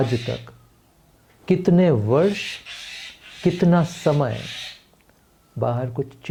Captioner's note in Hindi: नाक से की जाने वाली आवाज़